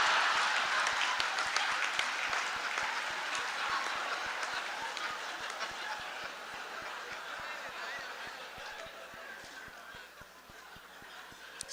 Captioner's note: laughter, applause